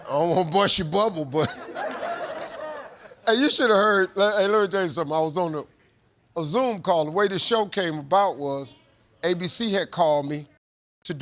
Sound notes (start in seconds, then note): 1.4 audience laughs